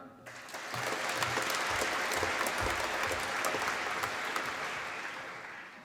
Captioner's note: applause